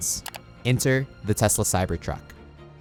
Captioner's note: cursor clicking